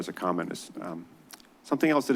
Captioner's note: clicks tongue